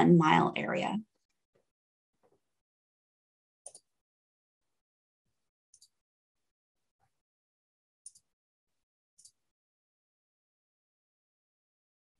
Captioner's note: silence